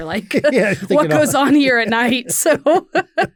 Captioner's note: laughs